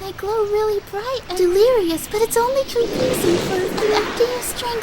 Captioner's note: fucking fade wipe wind noise holy shit